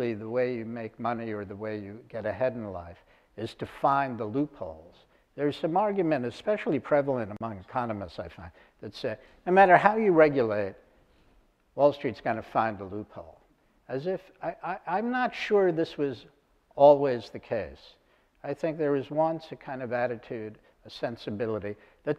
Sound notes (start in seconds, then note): none